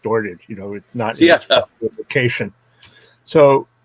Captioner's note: audio glitch